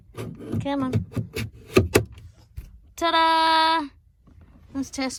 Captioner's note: part thunks into place